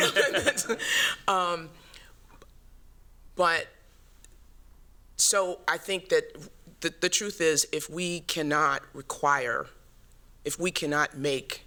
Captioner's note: laughs